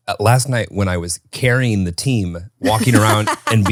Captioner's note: laughs